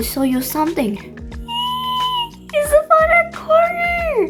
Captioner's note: squeaking